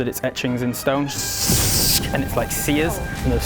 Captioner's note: sssssk!!